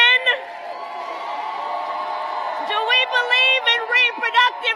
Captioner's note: applause